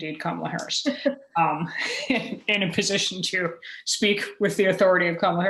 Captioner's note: chuckle